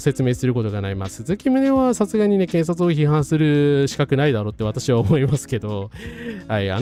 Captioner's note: laughs